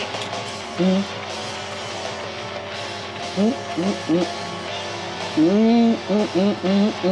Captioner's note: upbeat music continues; Babcock humming